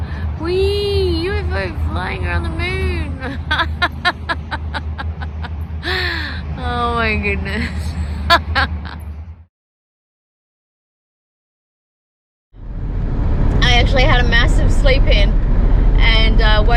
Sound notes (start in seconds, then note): 5.1 laughing; 7.6 laughs at self some more